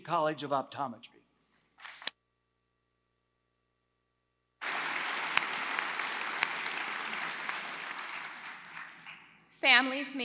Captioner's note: applause